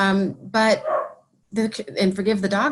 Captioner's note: dog barking